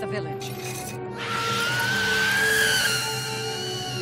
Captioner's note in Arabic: صراخ